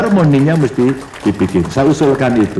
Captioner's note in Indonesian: tepuk tangan